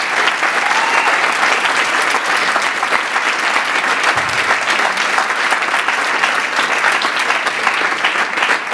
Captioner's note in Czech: potlesk